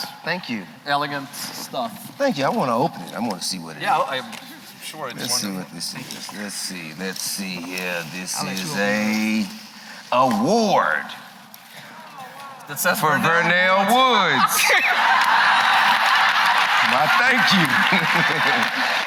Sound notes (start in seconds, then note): 14.5 laughter